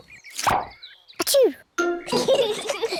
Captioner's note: sneezes; both giggle